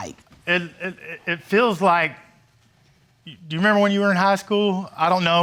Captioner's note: stammering